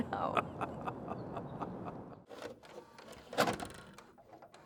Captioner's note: Charles laughing